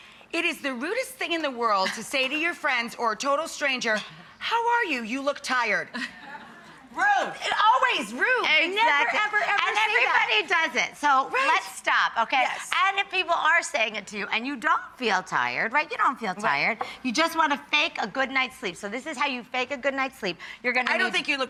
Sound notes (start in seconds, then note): 5.9 audience murmuring